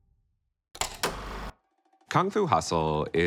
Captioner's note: upbeat music; film reel clicks